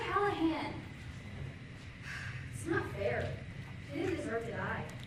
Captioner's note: sigh